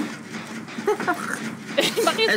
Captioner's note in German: lacht